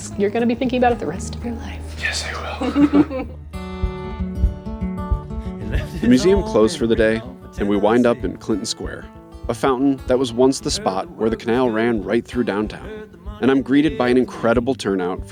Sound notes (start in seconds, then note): 2.3 both laughing; 3.5 upbeat music